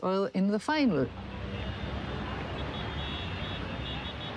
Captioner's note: car horns